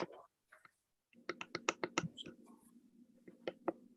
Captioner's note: keyboard typing